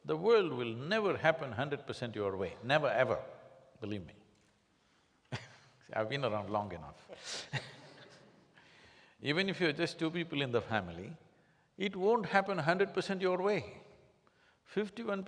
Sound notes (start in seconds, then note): 8.4 laughs